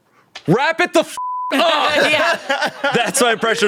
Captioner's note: beep